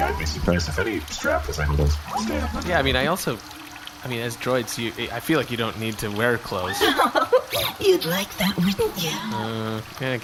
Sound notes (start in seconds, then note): 6.6 laughing seductively